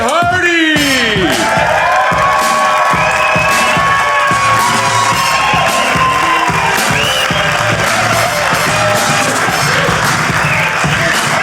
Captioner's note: audience cheering, music playing